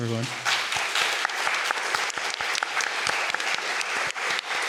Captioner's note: applause